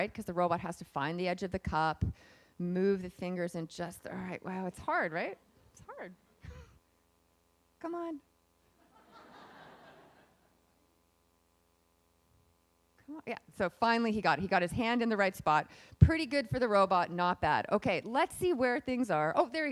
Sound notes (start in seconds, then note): 9.1 laughing